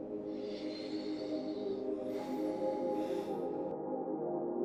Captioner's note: Logan breathes deeply